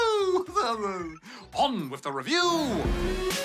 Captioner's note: chuckles